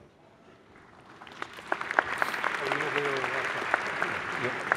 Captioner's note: applause